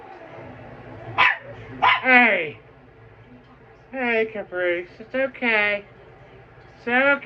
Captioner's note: growls; Ella barks